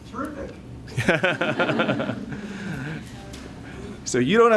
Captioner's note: laughter